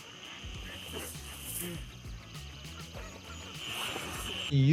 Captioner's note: fabric rustling